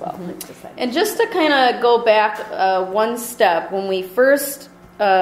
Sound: voiceover

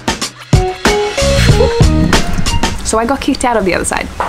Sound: giggles

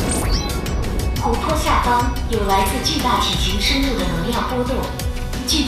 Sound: energy fluctuations of giant creature under the water

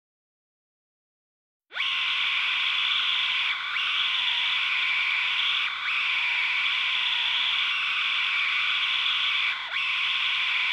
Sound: screaming

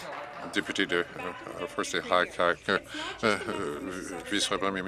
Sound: applause

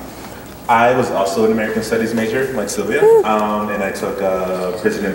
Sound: whoo

